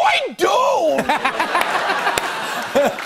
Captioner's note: laughter